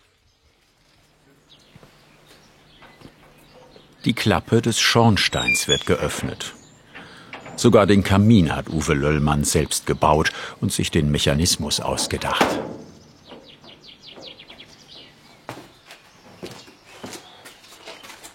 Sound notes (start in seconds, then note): 1.1 birds chirping